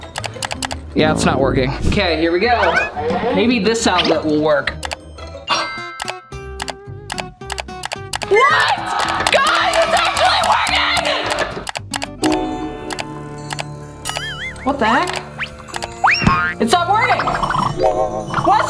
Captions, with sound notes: Yeah, it's not working. Okay, here we go. Maybe this outlet will work. (mouse clicking) What? Guys, it's actually working. (mouse clicking) What the heck? It stopped working.